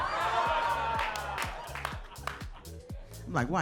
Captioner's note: audience laughing